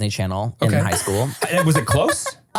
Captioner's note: laughs